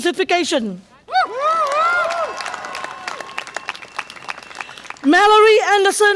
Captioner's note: audience applause and cheer